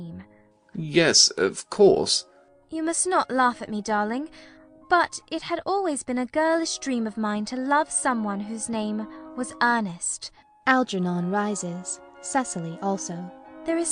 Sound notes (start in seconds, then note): 2.2 nervously